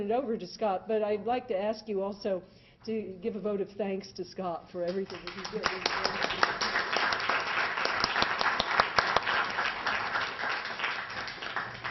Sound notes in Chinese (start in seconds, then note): 4.9 掌声